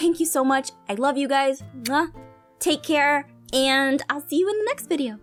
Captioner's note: muack